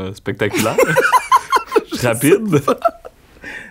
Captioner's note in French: éclat de rire